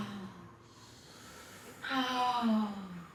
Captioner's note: sighing